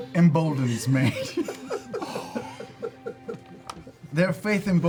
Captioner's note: laughter